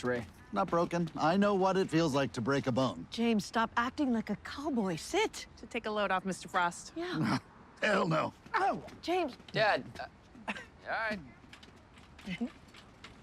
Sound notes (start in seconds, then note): 7.0 scoffs